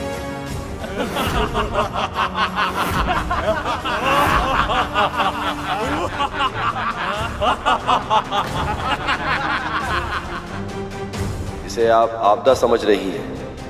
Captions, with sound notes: [laughs] You find it to be a threat.